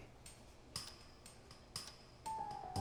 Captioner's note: clock ticks